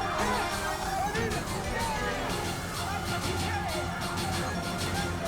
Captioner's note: group chattering frantically